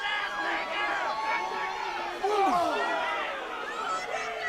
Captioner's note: audience cheering